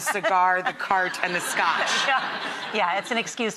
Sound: audience laughs

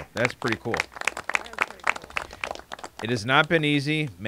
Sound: applauding

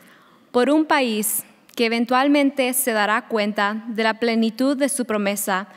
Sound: speaking a foreign language

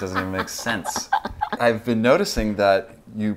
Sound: laughing

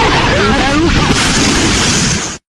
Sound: sound of impact

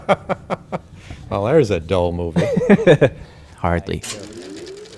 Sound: laughs; laughs

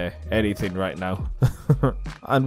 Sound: awkward chuckle

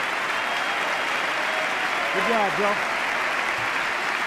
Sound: applause

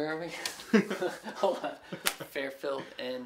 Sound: men laughing

